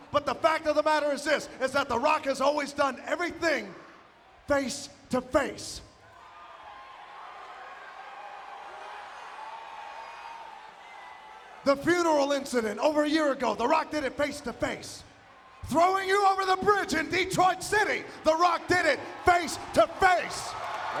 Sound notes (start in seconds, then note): 6.1 audience cheering